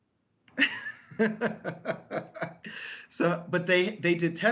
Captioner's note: laughing lightly